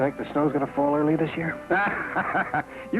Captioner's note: Pierre laughs